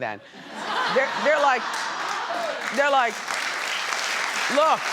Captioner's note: audience laughs; audience applauds